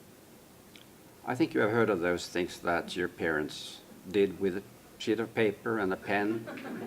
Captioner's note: laughter